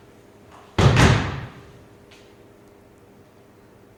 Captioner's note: stomps on stage